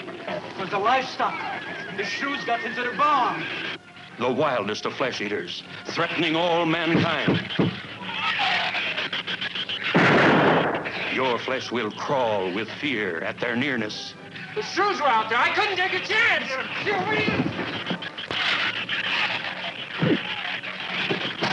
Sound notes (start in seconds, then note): 6.0 shrews squealing; 7.2 man knocking; 9.9 gun firing; 16.5 men grunting; 16.5 shrews squealing